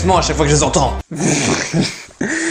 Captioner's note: snort